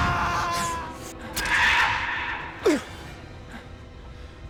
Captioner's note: alien roars